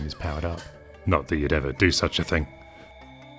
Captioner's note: stern voice